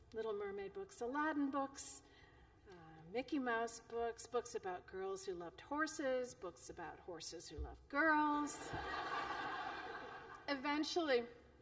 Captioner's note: laughter